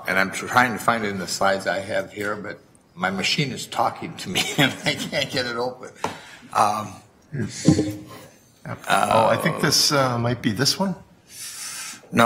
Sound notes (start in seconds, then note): 4.9 chuckles